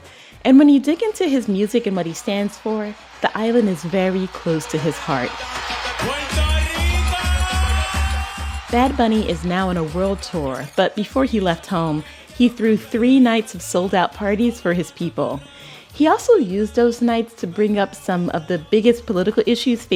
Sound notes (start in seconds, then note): 6.5 soundbite of archived recording; 8.1 cheering